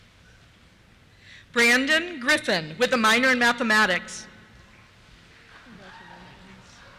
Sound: cheers

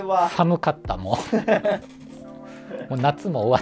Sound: laughing

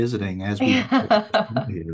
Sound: laughter drowns out speaker

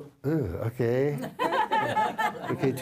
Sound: laughter

